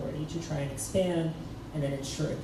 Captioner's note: none